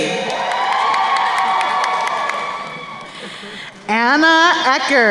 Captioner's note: crowd cheering